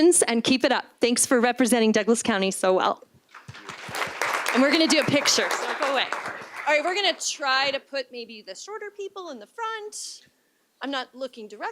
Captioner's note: applause